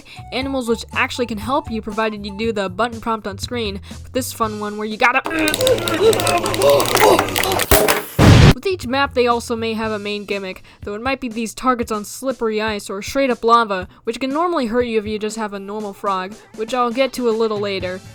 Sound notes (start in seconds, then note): 7.4 timely explosion